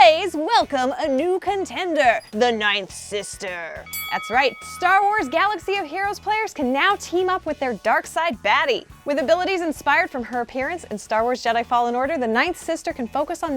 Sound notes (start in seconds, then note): 3.8 bell dings